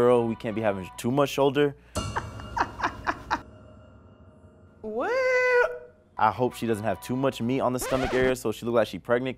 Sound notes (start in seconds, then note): 2.5 laughs